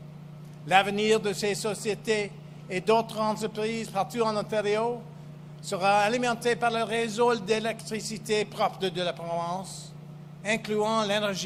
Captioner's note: speaks French